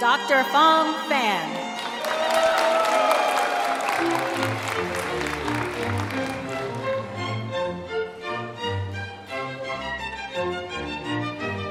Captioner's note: applause and music